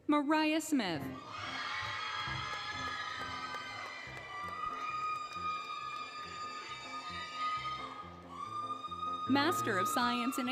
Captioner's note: applause, Cheering, Music